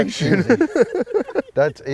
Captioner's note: laughing